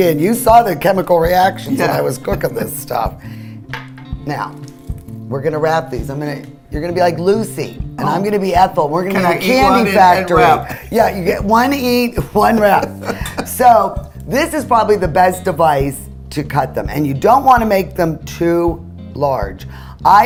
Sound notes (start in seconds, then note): 12.4 laughing